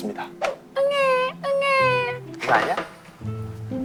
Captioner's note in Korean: 울음